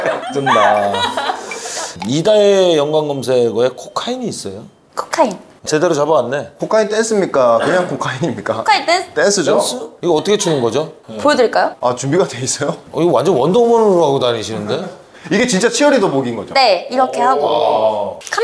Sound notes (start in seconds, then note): 0.0 hahahaha; 0.2 pffft